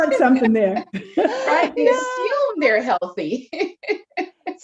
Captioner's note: laughs